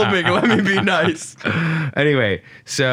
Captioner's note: laughs